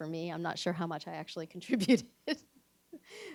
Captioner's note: laughs